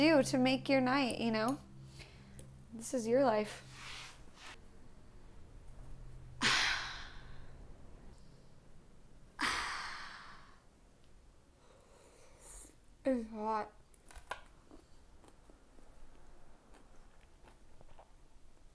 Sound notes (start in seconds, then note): 6.6 sighs